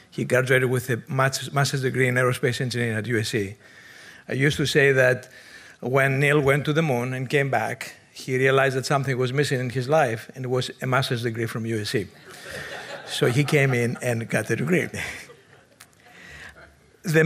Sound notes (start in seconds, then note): 12.2 audience laughing; 16.2 chuckles